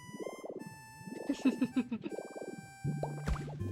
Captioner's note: giggles